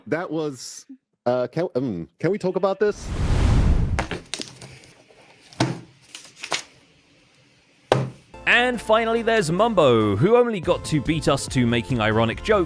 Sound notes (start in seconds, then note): 3.0 woosh; 4.2 slam; 7.7 smack